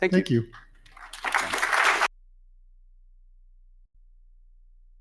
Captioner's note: audience applauding